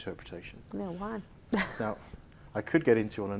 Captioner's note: chuckling